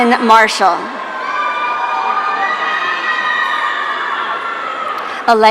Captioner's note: audience cheering